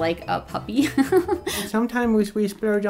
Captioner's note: laughing